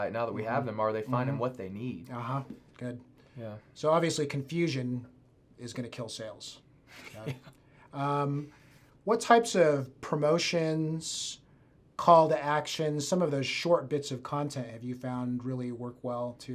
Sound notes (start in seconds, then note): 7.0 laughs